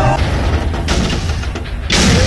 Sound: everyone screams; big explosion; small explosion

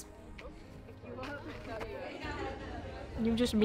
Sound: students laughing

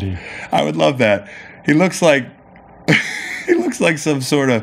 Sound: laughing

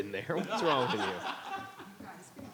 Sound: member laughs

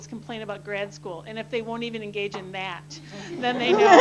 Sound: laughter

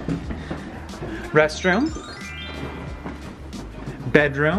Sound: magical twinkling

